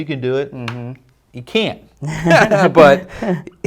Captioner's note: hearty laughing